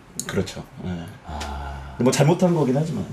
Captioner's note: sigh